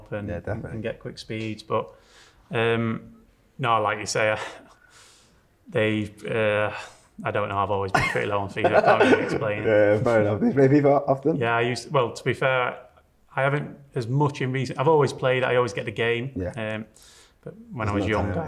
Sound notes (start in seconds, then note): 8.6 interviewer laughs; 8.8 continues laughing